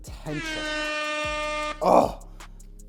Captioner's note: horn blow